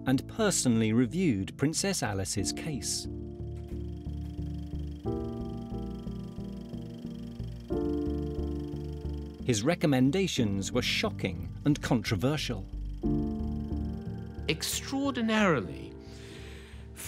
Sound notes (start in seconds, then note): 3.2 dramatic music; 3.3 camera flickering